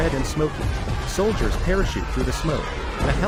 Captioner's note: soldiers yelling